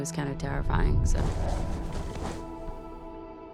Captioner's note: soft growls